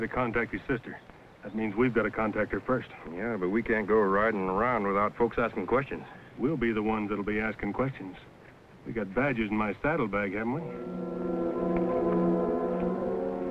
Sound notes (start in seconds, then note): none